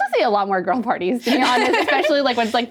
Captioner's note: all laughing